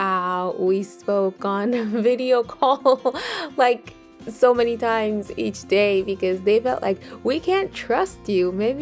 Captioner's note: laughs